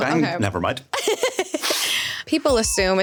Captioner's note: laughing